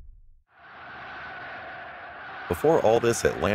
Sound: people cheering

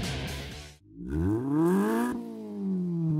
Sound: engine revs

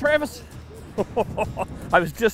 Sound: laughing

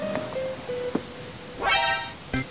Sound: wriggle

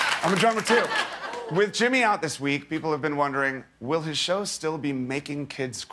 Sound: laughter

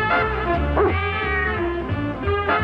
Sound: cat meowing; dog barks

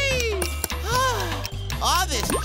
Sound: sighing

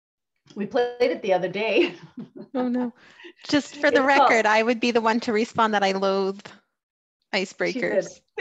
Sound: laughs

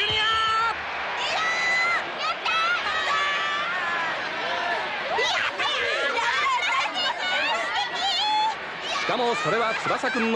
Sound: applause

